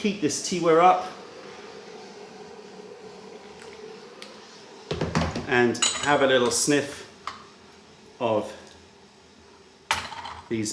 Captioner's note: pouring water